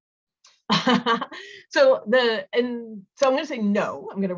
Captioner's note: laughs